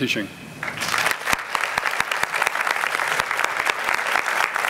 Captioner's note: applause